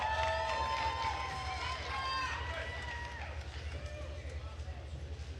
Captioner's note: attendees cheering and applauding